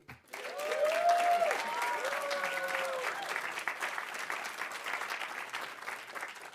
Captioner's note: audience applauding; audience cheering